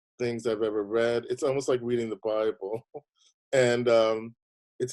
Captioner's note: laughing